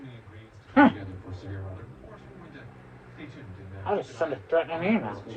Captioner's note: continues growling